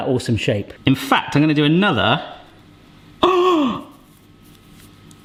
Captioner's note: gasps